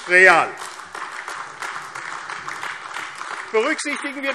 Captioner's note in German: Beifall AfD